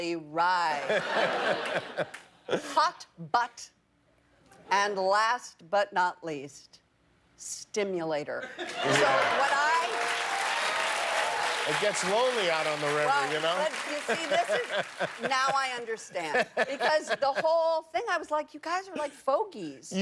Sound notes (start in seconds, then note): 0.0 laughter; 10.8 laughter; 11.1 cheers and applause